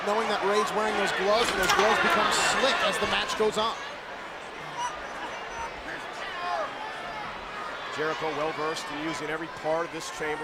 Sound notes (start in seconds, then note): 4.6 crowd murmuring